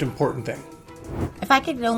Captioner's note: air whooshing